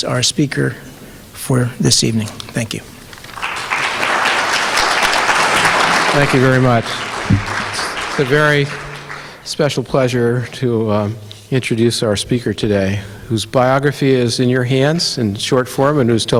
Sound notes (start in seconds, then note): 3.0 audience applauding